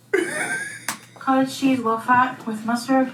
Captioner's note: laughs